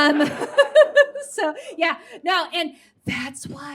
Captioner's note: mimics whispery voice